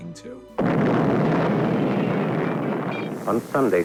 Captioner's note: explosion roaring